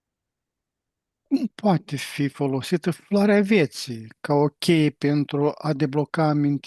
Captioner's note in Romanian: voce dreasă